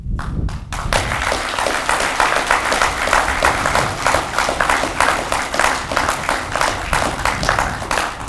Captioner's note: audience clapping